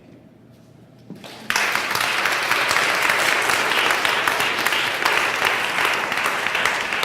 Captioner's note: applause